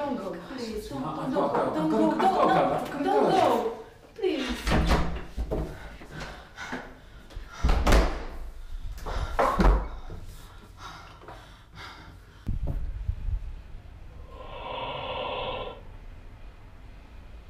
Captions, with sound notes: Don't go, please. - I've gotta go. - Don't go, please. (Ava pants) (distorted breaths)